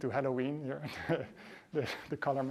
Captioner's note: laughter